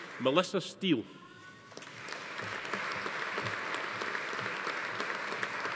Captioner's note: audience applauding